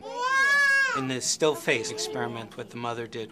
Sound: baby crying

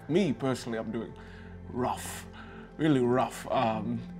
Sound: none

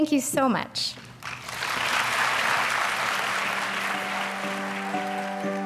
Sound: applause

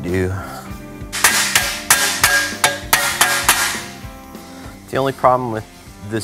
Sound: clang, clang, clang

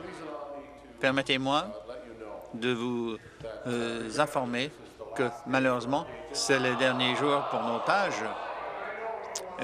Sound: chorus of no's

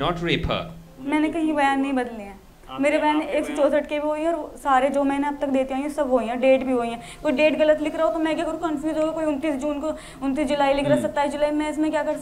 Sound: non-english speech

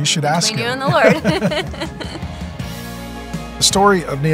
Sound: both giggling softly

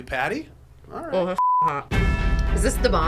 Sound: beep

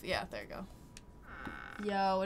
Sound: door creaking

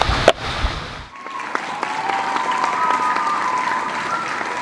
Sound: applause

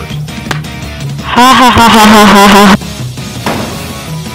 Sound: Aiden.EXE laughs

